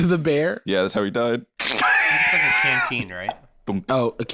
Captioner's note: laughs